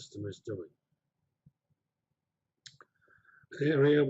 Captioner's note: pause